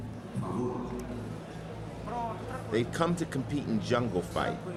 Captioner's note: man over PA